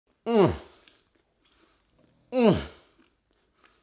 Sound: eats noisily

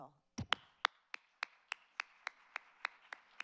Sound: applauds

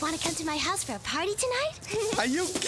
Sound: <i>giggles</i>

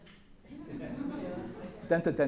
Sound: laughter

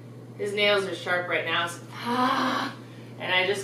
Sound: growling noise

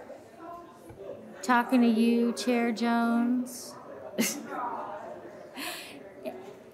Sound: laughing

